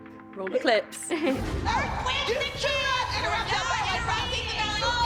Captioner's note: chuckles; indistinct shouting